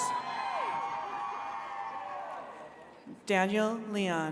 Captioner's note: attendees cheering